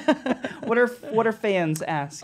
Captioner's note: laughing